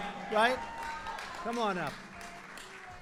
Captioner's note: applause